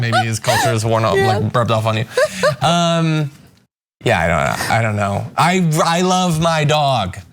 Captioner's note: laugh